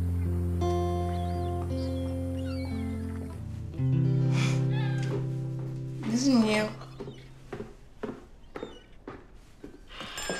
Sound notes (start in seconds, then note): 4.2 laugh